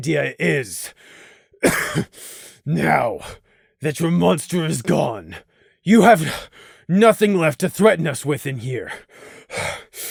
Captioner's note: cough